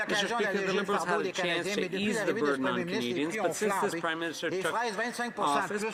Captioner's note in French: voix de l'interprète